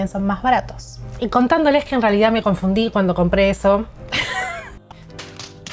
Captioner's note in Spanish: risas